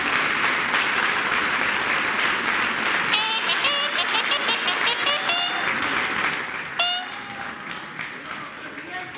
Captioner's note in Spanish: aplausos